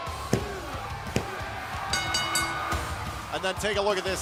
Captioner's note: bell ringing